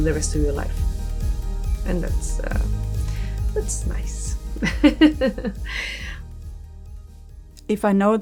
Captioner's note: laughs